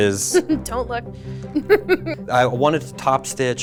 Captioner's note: laughs